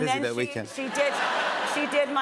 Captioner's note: laughter